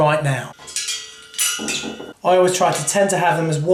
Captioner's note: metal clangs